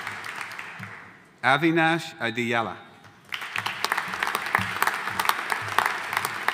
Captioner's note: audience applauding